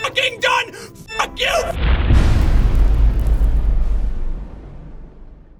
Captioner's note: impact